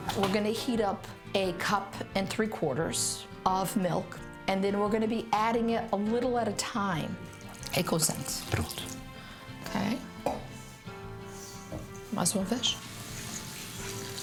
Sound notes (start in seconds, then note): 7.9 speaks in foreign language